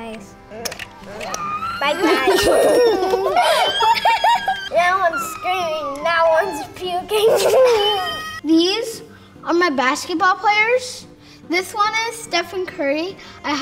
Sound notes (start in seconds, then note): 0.2 kissing noises; 1.1 children squealing; 7.0 children laughing